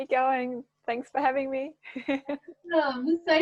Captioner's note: chuckles